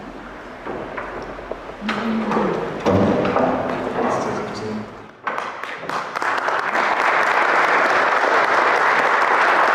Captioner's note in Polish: Aplauz